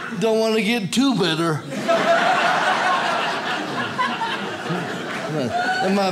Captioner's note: audience laughs